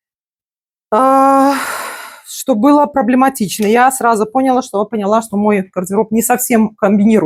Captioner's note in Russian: вздыхает